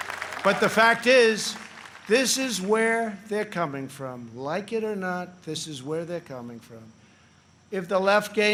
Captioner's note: applause